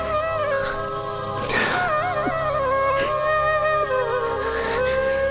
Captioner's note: Sobbing